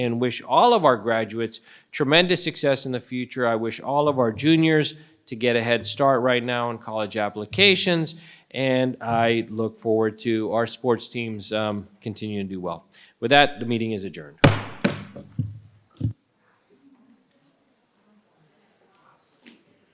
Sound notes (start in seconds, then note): 14.4 strikes the gavel